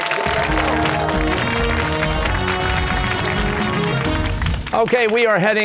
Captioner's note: cheers and applause